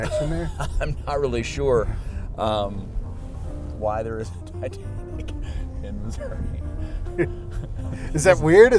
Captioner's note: laughter; laughter